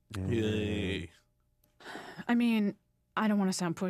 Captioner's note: lame cheering